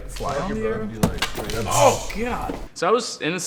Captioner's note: thuds